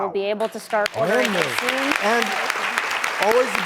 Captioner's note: applause